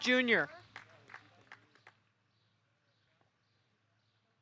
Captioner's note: audience applauding